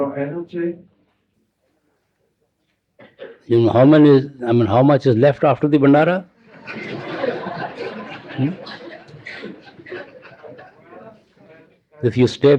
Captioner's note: laughter